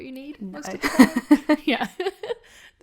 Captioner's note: laughing